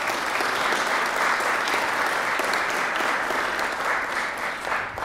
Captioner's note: applause